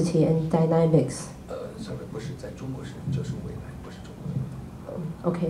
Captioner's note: speaking in Mandarin